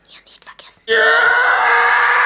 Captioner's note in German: Lauter Schrei